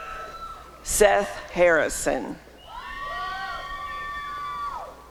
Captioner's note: applause and cheering